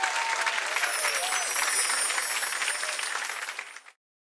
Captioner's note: audience clapping; bells chiming